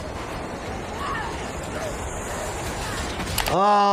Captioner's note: train whirs; yells